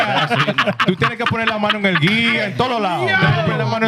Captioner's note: laughter; speaking Spanish